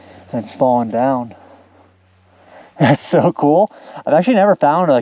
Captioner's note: chuckles